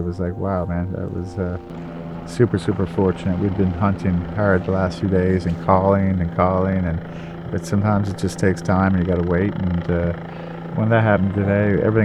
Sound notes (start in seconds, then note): 6.6 helicopter whirring